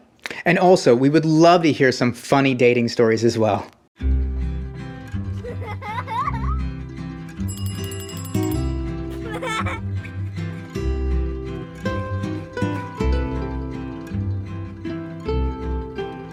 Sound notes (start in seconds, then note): 4.0 peaceful music; 5.3 child laughing; 7.4 bell ringing; 9.1 child laughing; 12.6 peaceful music continues